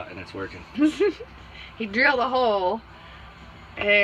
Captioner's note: giggles